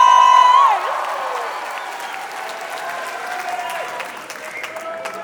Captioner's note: applause; cheering